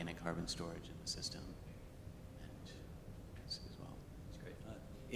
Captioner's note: speaks faintly